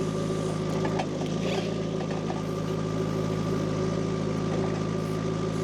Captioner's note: tractor rumbling continues